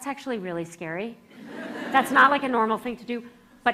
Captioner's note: laughter